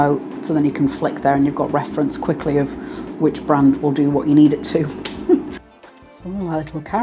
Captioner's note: laugh